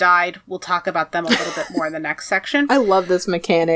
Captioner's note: laughs